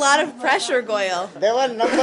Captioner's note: laughter